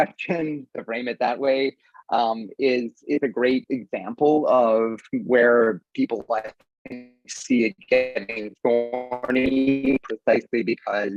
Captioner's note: audio distorts